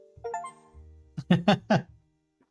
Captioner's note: chuckles